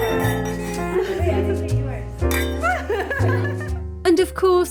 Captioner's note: glass clinking; clinking and laughing